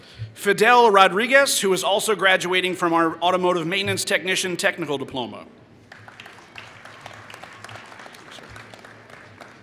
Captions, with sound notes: Fidel Rodregez, who is also graduating from our automotive maintenance technician technical diploma. [Applause]